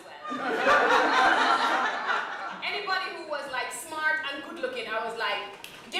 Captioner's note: laughter